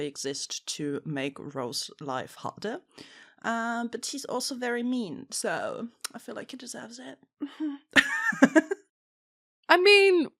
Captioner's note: laughs